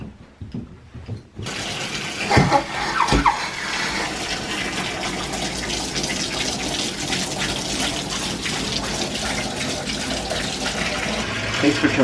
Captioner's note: water running